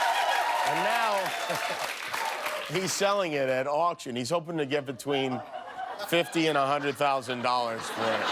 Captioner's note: cheers and applause